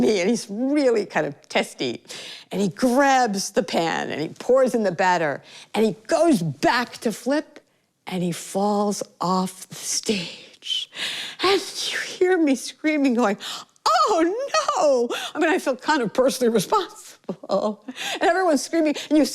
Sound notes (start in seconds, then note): none